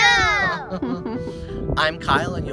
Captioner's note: parents laughing